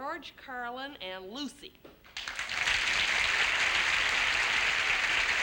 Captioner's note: applause